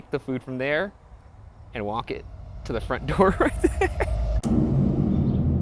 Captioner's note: laughs; ominous music